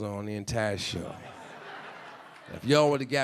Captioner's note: audience laughing